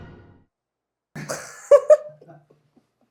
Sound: haha

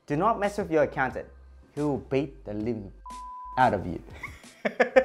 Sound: beep

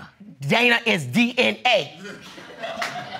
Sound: audience laughing

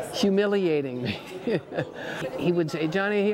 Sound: laughs

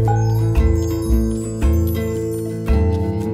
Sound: magical sounds

